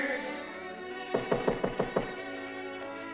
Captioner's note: door knocks; soothing music